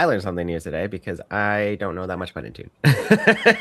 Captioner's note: laughs